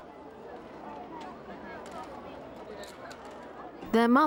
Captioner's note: group chattering